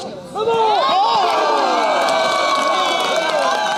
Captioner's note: cheering